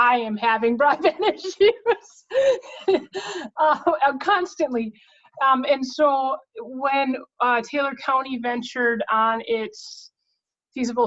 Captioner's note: laughing